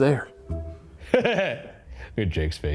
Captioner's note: laughing